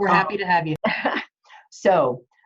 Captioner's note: laughing